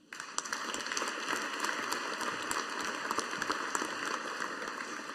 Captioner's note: audience applauding